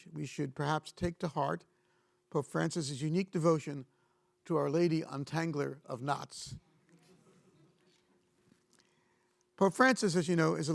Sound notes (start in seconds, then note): 7.0 audience chuckling